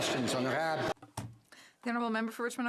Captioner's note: some Applause